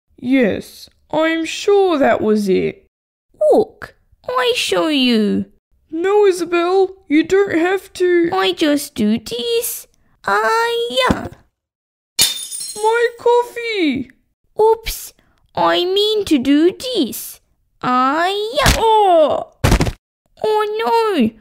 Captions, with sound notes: Yes, I’m sure that was it Look! I show you No Isabelle! You don’t have to... I just do this... Ahhhh-ya! (Smash!) My coffee! Ooops! I mean to do this... Ahhhh-ya! (Wack!) Owww! (Thud!) Oh no!